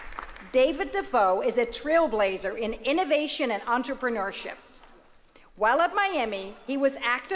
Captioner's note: applause